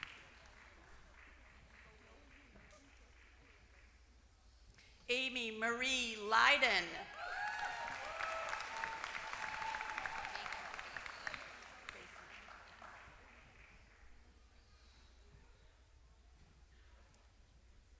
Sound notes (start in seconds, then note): 0.0 applause; 8.6 applause